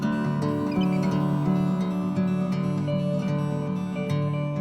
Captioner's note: bald Eagle calls